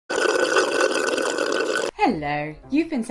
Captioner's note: slurping